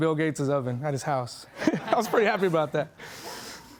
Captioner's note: laughing